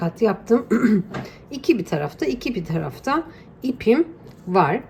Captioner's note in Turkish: boğazını temizler